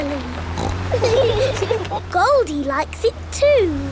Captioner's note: laughing